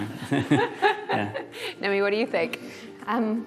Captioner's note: laughter